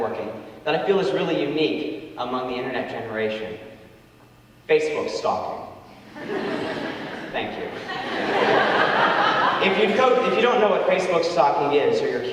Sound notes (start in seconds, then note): 6.0 audience laughing